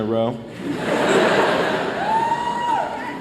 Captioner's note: laughter